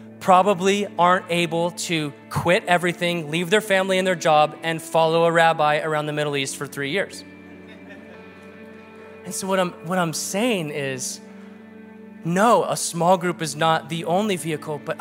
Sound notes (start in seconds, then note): 7.5 man laughs